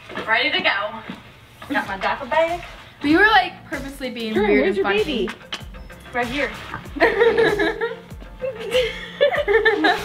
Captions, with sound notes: Ready to go. Got my diaper bag. - We were like purposefully being weird and funky. Jordan where's your baby? - Right here. (laughing)